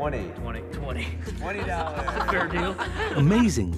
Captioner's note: laughter